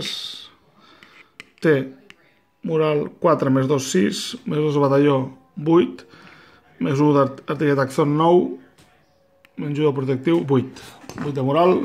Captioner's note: steps